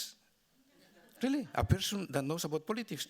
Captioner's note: audience laughing